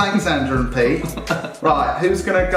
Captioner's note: laughs